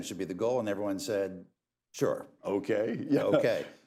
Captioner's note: laughs